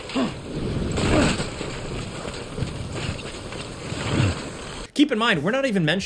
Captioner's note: game character grunting